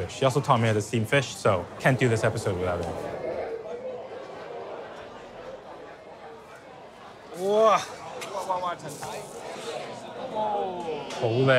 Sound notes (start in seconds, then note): 3.5 people chattering